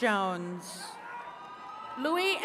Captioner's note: attendees cheering